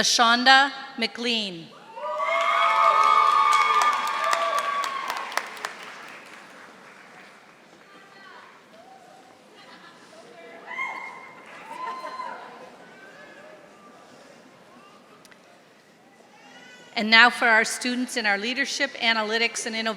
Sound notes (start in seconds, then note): 2.2 audience applauding